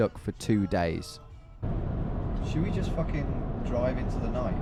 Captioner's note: engine revving